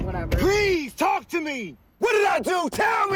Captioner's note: shouts